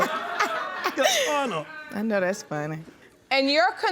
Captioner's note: audience laughing